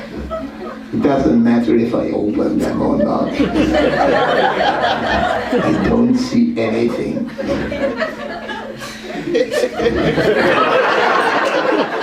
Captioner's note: laughter